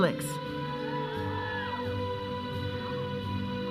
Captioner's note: audience cheering; processional music